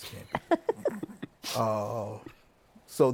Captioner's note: laughs